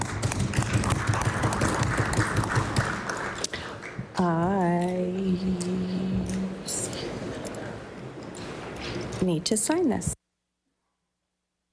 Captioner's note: applause